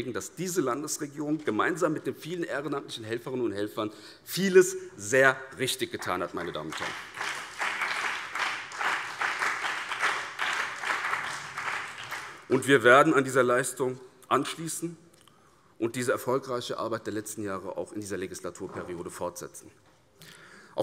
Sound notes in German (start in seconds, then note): 7.6 Beifall BÜNDNIS 90/DIE GRÜNEN und CDU